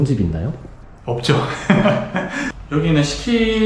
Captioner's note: laughs